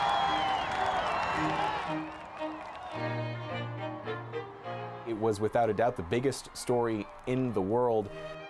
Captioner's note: cheering